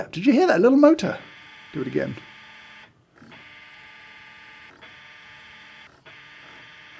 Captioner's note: coffee grinder whirring